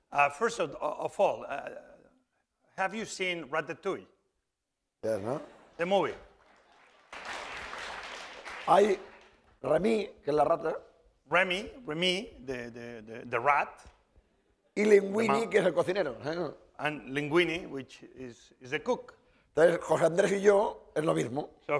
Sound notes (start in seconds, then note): 4.9 speaking spanish; 5.6 applause; 9.5 speaking spanish; 15.6 speaking spanish; 20.5 speaking spanish